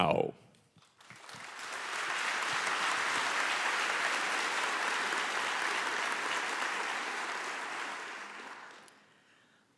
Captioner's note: applause